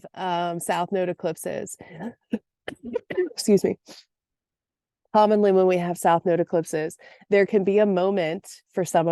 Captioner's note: coughs